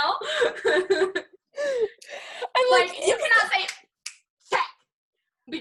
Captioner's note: snaps fingers